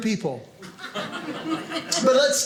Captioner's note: audience laughing